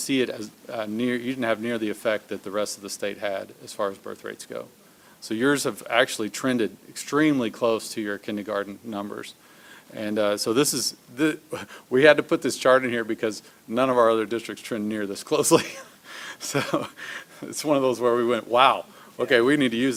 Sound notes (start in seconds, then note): 16.2 laughs